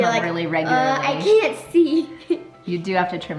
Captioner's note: laughs